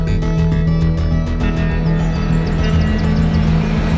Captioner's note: birds tweeting